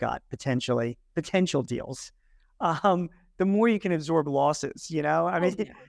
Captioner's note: laughs